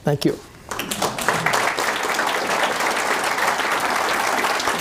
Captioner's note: audience applause